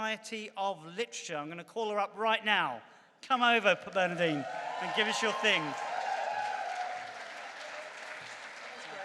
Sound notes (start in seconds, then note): 3.6 applause